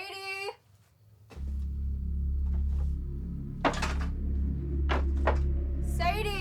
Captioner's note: ominous music; debris clatters